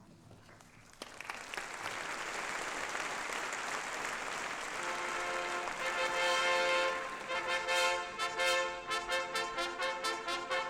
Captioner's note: applause